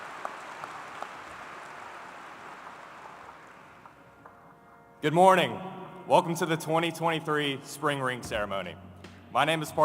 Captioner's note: applause